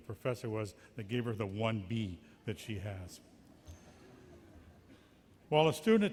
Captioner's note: giggles